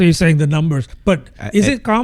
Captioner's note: uh